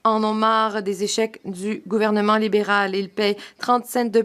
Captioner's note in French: voix de l'interprète